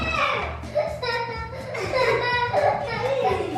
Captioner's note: laughing